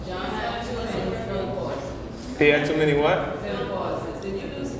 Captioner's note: crowd mumbles answers